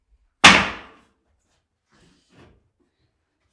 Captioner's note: wood bangs